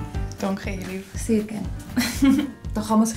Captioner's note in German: lacht